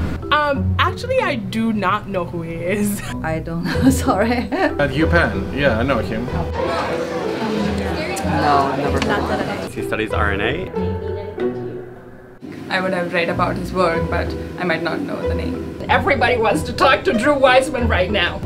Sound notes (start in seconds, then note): 3.6 laughing